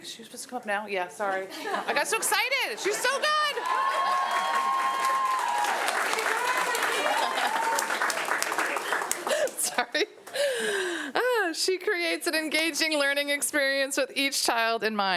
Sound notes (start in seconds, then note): 4.5 audience cheering